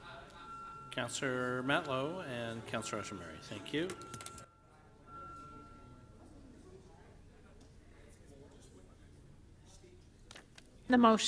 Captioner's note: off microphone